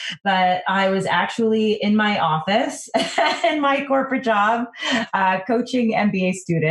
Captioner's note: laughs